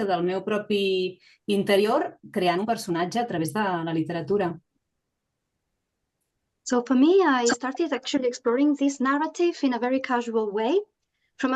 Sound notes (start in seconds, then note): 2.5 continues speaking in Catalan